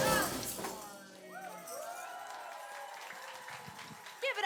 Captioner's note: applause